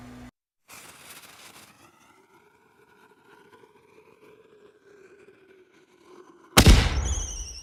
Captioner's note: fireworks launching sound effect; fireworks cracking sound effect